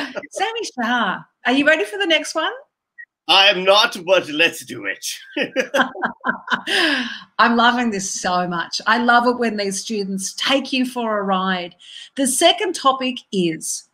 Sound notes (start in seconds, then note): 5.0 laughs